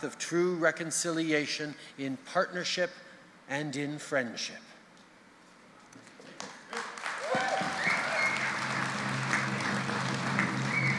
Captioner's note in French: Applaudissements et battements de tambour